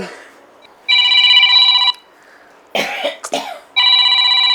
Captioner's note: phone rings